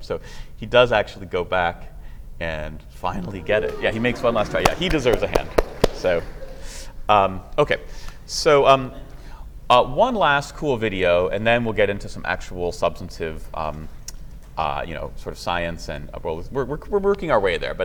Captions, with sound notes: So he does actually go back and finally get it. [CHEERING] Yeah, he makes one last try. He deserves a hand. [APPLAUSE] So one last cool video, and then we'll get into some actual substantive science. And, well, we're working our way there.